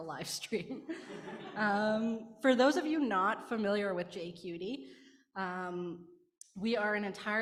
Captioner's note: laughing